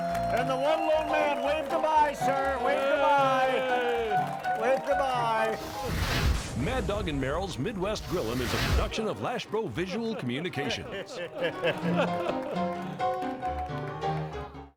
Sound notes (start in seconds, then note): 5.4 graphics whooshing; 10.2 people laughing; 10.6 joyful music